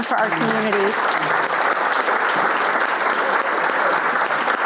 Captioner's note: audience applauds